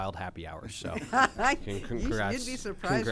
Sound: laughter

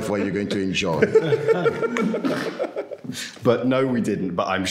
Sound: men laughing

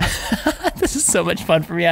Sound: laughter

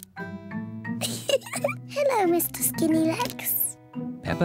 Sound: laughs

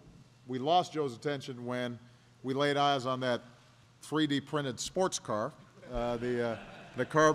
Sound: laughter

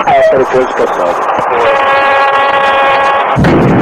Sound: altitude Alert

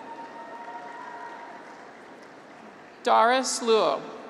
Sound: graduates cheer

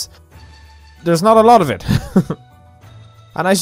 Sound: laugh

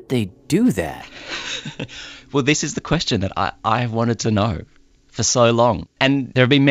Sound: laughs

